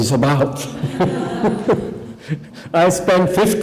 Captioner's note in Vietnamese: laughter